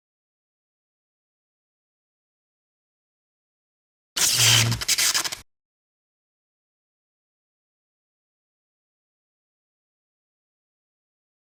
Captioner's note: sparking sound